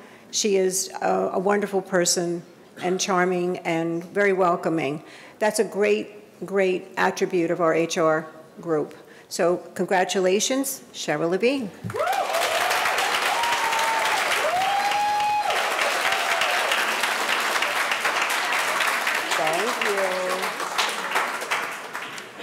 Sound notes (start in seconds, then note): 12.2 audience applauding